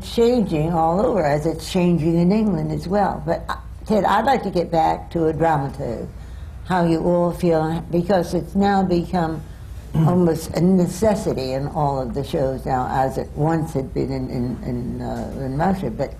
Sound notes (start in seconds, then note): none